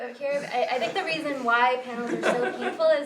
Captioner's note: laugh